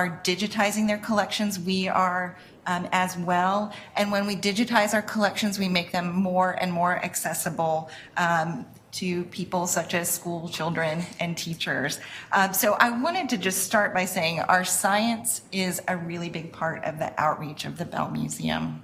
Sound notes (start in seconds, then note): none